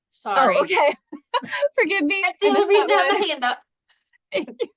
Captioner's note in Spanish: ambas se ríen